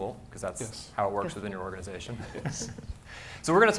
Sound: laughs

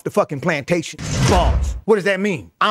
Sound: bars slamming

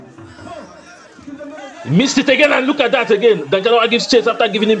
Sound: screams

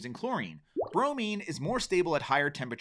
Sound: water bubbling

